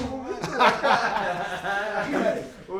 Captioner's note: laughter